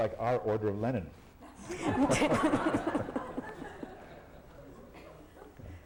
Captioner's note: laughter